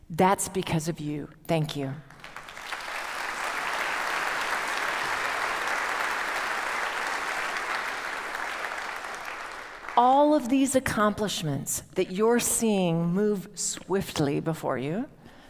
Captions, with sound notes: That's because of you. Thank you. (audience applauds) All of these accomplishments that you are seeing move swiftly before you,